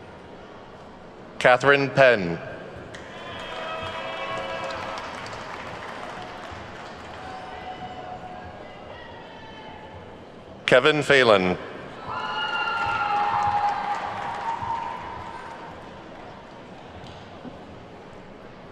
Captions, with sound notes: Catherine Penn. (attendees clapping) Kevin Phelan. (attendees whooping and clapping)